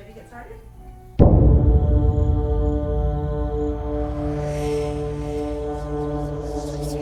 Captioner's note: dramatic, jarring music; crickets chirping